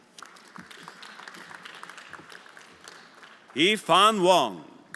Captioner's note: everyone applauding